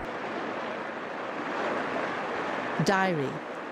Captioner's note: water rushing